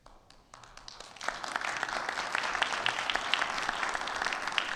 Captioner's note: audience applauding